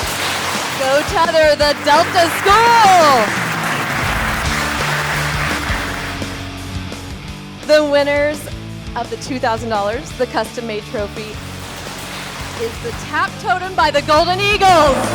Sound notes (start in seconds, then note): 2.6 crowd applauding; 2.6 upbeat music